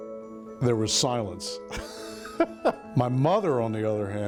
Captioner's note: laughing